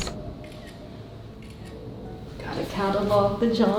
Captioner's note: camera snapping